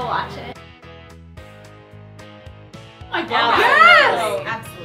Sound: chorus of affirmatives

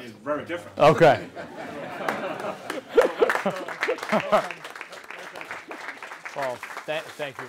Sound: laugh; applause

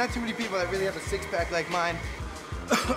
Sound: coughs

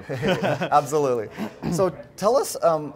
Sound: laughs

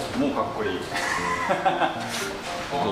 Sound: laugh

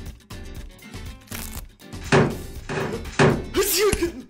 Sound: metal Clangs

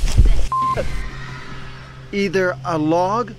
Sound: beep

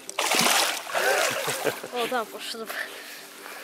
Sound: laughs

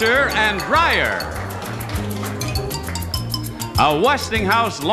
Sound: audience applauding; upbeat music

